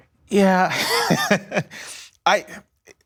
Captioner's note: laughter